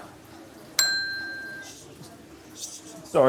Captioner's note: bell dings